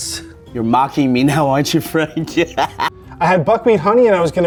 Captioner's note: laughs